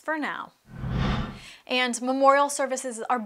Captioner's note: air whooshing